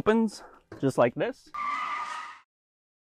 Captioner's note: tires screeching